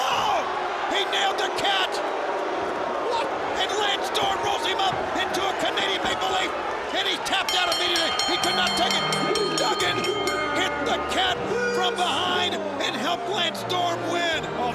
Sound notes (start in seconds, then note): 2.3 crowd boos; 7.4 bell rings